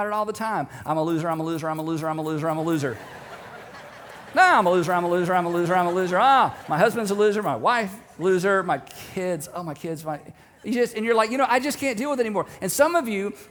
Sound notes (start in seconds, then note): 2.6 audience laughing